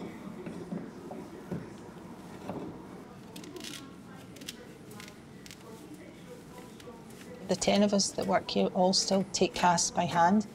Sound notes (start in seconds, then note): none